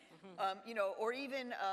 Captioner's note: audience laughs